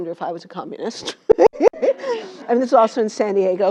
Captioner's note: laugh